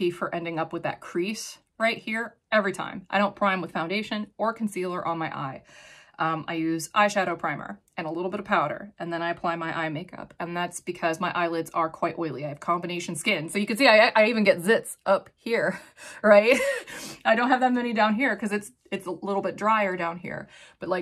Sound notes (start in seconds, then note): 16.6 sniffles; 17.6 chuckles